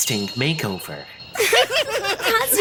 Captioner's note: all chuckling